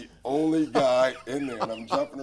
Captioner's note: laughs